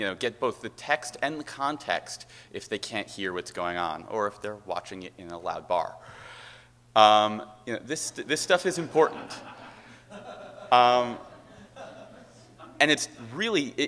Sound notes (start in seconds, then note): 8.8 laughter